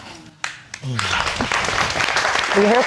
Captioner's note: audience applauding